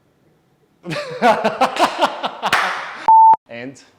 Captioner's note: laughs